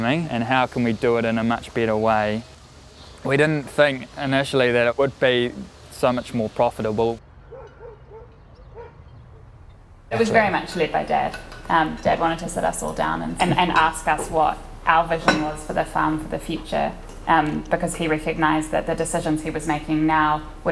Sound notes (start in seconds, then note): 7.4 dog barking